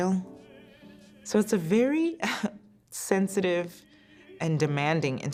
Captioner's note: chuckles